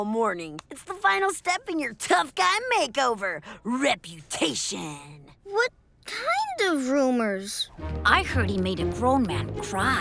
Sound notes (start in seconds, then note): none